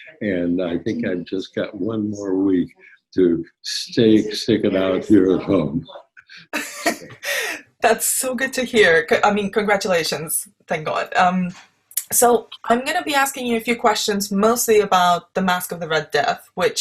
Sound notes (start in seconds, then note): 6.4 laughs